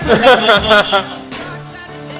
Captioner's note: laughs